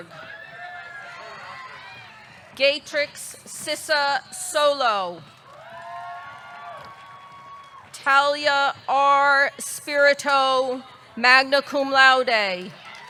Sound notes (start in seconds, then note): 0.1 audience cheering; 5.4 audience cheering; 5.4 audience clapping